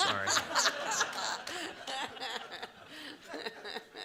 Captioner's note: all laugh